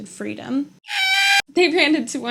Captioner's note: bird screech